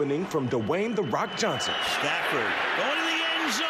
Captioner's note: cheers